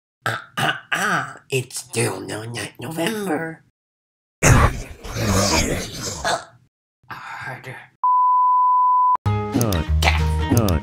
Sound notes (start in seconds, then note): 4.4 demon noises; 9.2 happy music